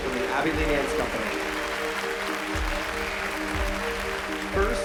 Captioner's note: applause